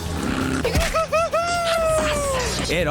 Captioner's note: hooting